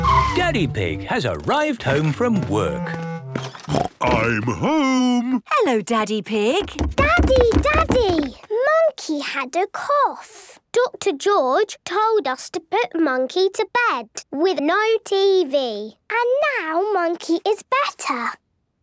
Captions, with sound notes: - Daddy Pig has arrived home from work. (snort) - I'm home! - Hello, Daddy Pig. - Daddy! Daddy! Monkey had a cough! - Doctor George told us to put Monkey to bed with no TV. - And now, Monkey is better.